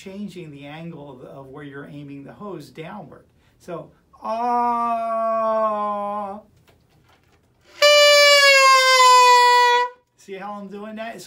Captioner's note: vocalizing